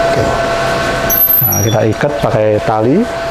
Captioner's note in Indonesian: suara alat press